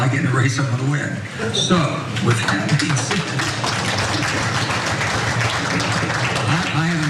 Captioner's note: applause